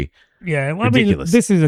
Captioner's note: uh